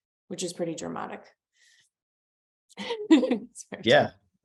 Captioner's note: laughs